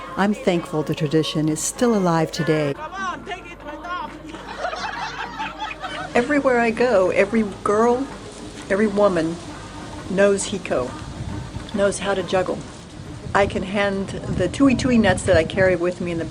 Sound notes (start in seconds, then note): 4.3 women laughing